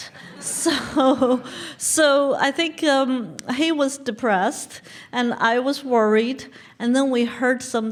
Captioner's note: laugh